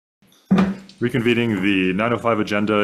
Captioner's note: gavel pounds